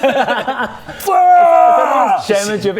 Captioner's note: aaggggggghh!